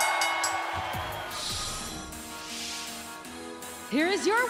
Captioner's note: bell ringing